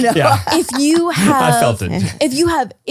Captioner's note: laughs